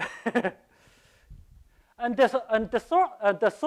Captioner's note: laughs